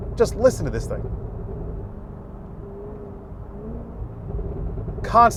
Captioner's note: engine revving